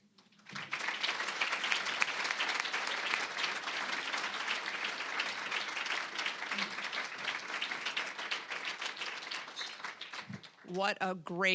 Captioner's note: applause